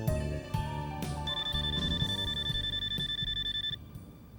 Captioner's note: phone ringing